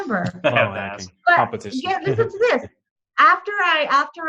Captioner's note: laughs